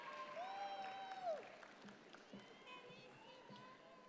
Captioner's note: audience applauds